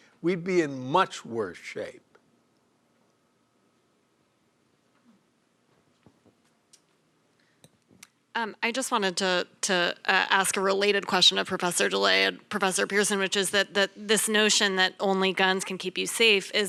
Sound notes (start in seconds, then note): 5.7 shuffling